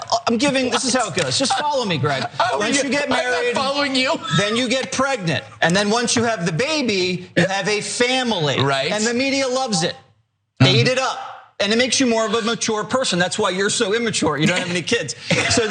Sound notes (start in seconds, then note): 3.0 laugh